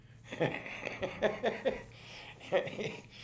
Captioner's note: laughs